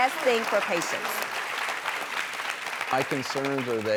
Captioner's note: applause